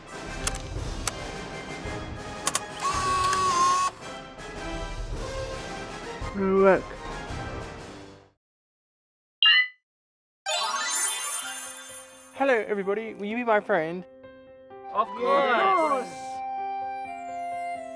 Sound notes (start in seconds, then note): 0.4 clicking; 0.6 whirring; 9.4 beep